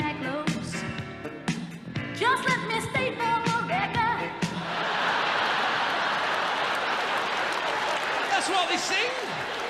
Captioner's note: audience laughs